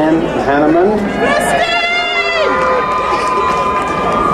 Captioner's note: crowd cheering